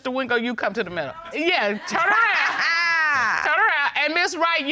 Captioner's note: laughs